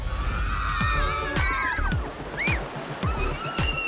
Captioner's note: girls squealing excitedly